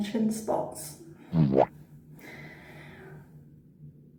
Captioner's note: bowomp sound effect